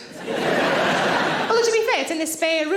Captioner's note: audience laughing